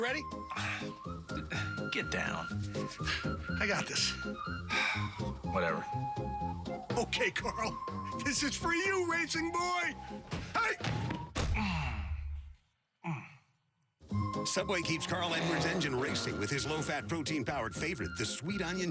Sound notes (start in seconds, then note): 11.4 comical crashing/ body thumping/groaning sounds